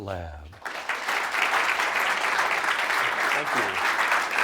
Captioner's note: audience applauding